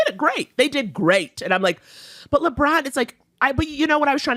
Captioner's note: inhales